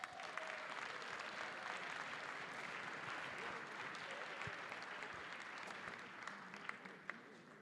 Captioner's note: applause